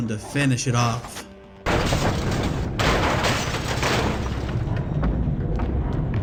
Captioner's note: in epic voice; machine crashes